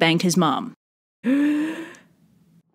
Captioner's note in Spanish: respiracion profunda